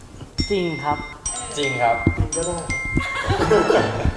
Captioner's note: laugh